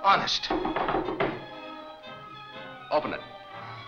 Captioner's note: knocking on door